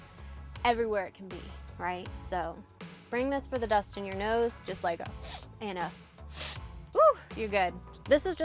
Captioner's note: spritz